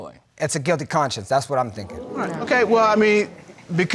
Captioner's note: audience exclaiming